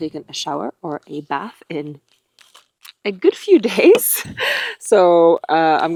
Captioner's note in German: lacht